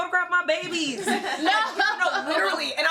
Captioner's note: all laugh